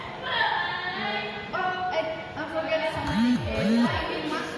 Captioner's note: beeping